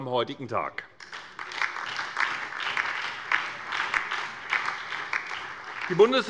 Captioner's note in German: Beifall bei der SPD, der LINKEN und der FDP